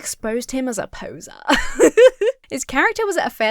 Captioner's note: laughs